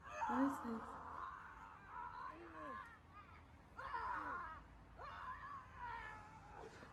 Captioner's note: Schizo screaming